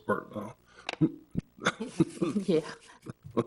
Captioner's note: board members laughing